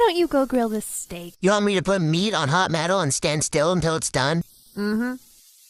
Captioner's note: in CapCut Trickster Voice